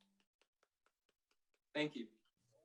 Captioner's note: board members clapping